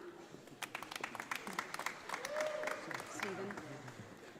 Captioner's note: audience applauding